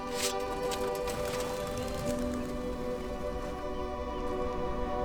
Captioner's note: wings fluttering